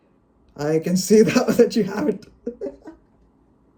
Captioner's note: pained chuckle